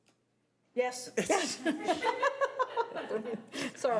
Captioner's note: laughs